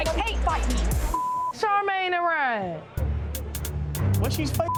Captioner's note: beeps